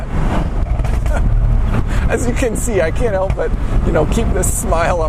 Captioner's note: laughs